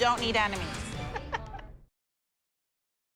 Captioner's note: laughs